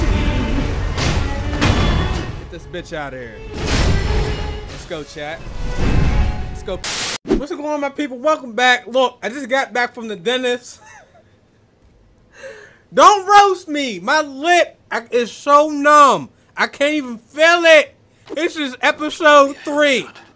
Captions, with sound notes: (deathblow rings) Get this bitch outta here. Let's go, chat. (static) What's going on my people, welcome back. Look, I just got back from the dentist. Don't roast me! My lip is so numb, I can't even feel it. (lisps) This is episode three.